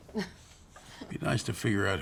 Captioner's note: group chuckling